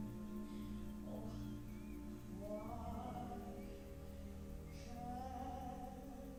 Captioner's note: birds chirping